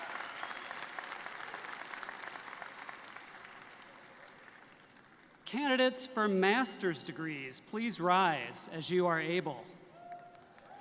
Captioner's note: applause